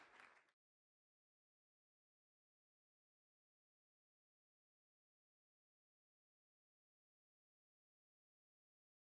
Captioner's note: clapping